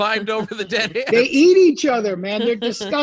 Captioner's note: laughing